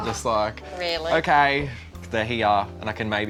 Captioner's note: voiceover